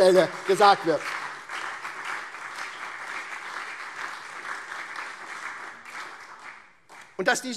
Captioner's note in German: Beifall SPD und CDU